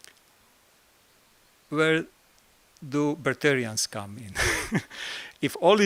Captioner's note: laught